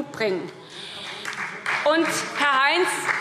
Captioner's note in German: Beifall SPD